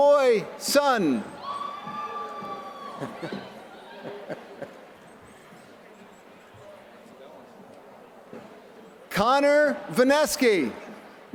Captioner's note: laughter